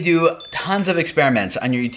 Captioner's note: pinging